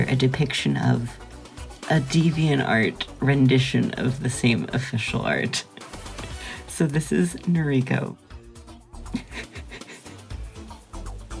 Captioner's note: giggling